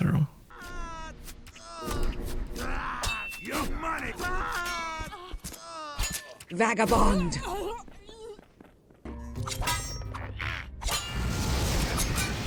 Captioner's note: combat sounds